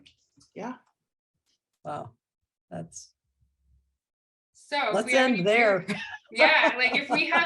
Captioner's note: laughing